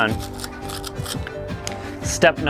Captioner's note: scrubbing